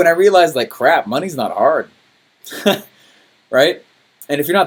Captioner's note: laughs